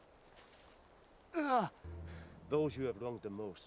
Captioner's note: Eric cries out